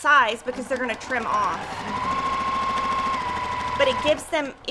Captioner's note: machine whirrs